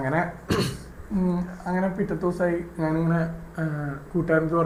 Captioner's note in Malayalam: തൊണ്ട ശരിയാക്കുന്നു